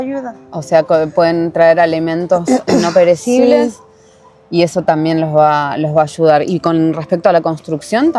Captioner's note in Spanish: carraspeo